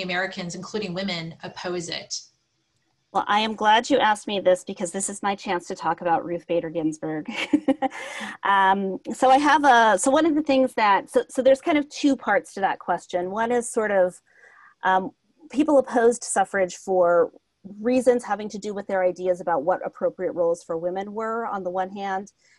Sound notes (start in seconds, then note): 7.3 laugh